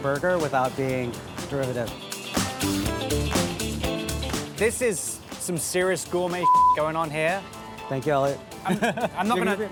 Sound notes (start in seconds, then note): 1.8 bright music; 6.4 beep